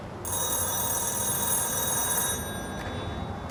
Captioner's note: phone rings